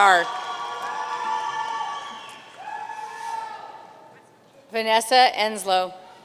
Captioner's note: audience cheering and applauding